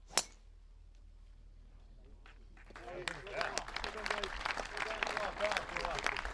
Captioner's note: applause